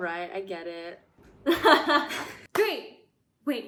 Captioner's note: laughs